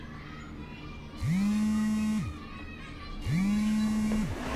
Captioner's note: phone vibrates